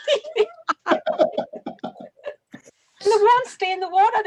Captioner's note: laughs